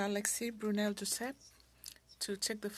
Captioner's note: speaking French